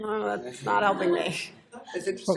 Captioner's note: laughter